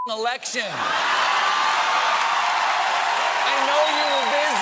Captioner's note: cheers and applause